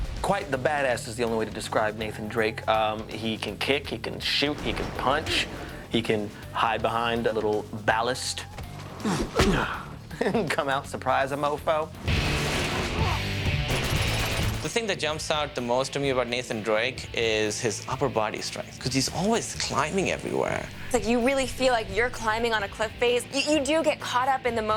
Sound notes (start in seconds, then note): 8.9 grunts; 13.6 gunfire